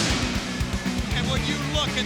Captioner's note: pyro booms